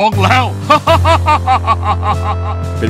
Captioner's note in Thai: หัวเราะ